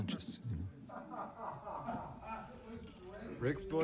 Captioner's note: laughs